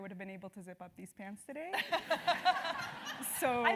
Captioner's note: laugh